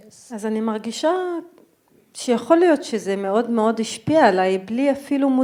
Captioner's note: speaking in foreign language